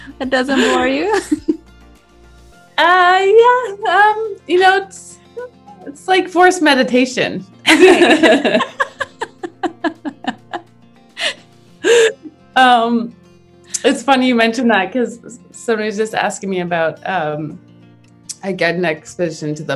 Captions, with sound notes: That doesn't bore you? - Yeah. You know, it's. It's like forced meditation. (both laugh) It's funny you mentioned that, 'cause somebody was just asking me about, I get an exhibition to